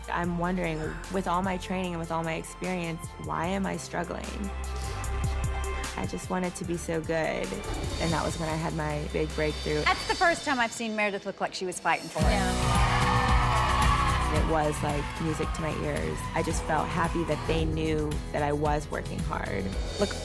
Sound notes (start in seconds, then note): 12.2 background cheers